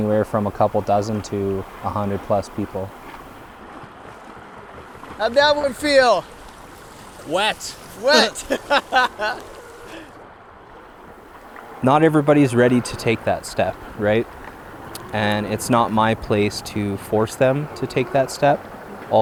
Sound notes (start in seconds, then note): 7.9 laughs